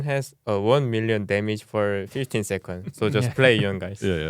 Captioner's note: laughs